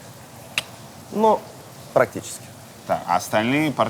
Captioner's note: clicks tongue